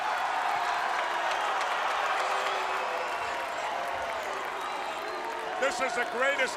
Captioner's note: crowd cheering